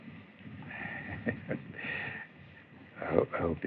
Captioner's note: chuckles